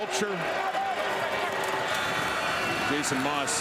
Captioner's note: crowd Noise